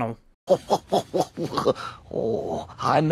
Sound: chortles then sudden sad "oh"

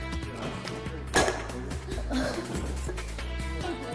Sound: clap!

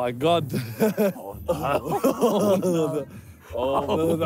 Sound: laughing

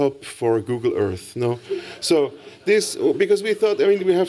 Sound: laughter

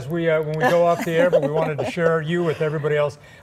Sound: laughter

